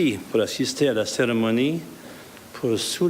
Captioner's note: speaking French